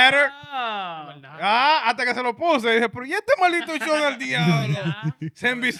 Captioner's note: speaking In Foreign Language